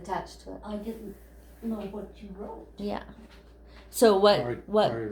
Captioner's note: background talking